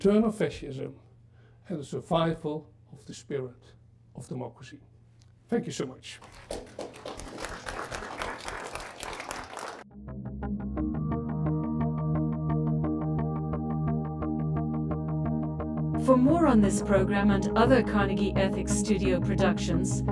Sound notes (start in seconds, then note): 6.2 audience applauding; 10.2 slow music